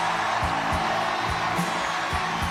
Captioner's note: audience cheering; upbeat pop-rock music